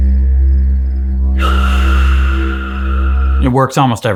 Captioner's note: bassy didgeridoo music; inhaling; bassy didgeridoo music; exhaling